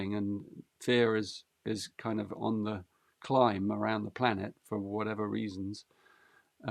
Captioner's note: none